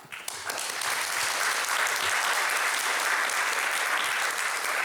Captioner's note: audience applauding